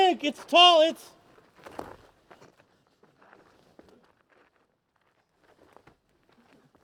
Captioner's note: footsteps